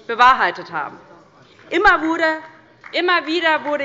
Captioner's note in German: Beifall bei Abgeordneten der LINKEN